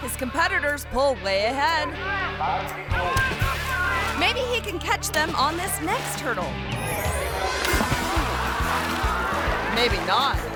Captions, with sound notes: his competitors pull way ahead. (crowd clamoring) Maybe he can catch them on this next hurdle. (playful music) (water splashes) Maybe not.